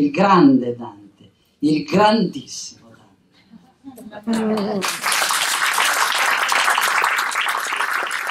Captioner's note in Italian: applausi